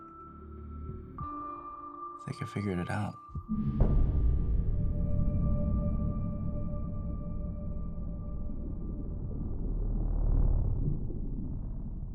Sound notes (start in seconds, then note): 3.3 dramatic music; 3.9 water gurgling